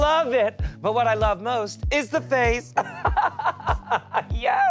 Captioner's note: laughs